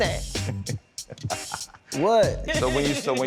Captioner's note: laughs